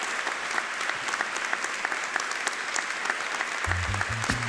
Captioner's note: audience applauding